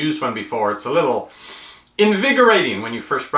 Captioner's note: breathes in loudly